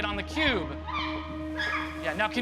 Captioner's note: shrieks